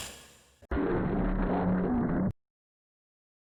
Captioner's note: spooky sounds